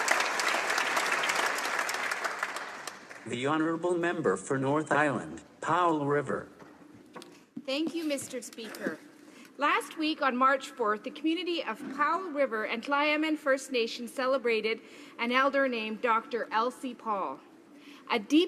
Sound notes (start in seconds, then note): 2.2 applause